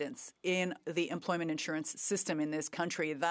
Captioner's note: speaking French